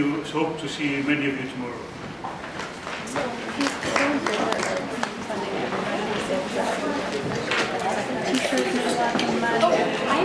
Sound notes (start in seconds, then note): 3.6 audience applauds; 6.4 crowd murmurs